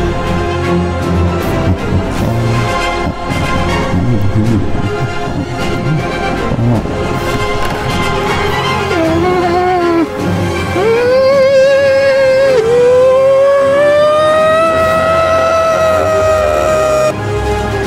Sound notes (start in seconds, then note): 1.5 bin hand chuckles happily; 8.5 zb moans, then shrieks